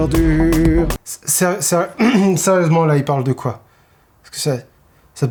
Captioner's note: clears throat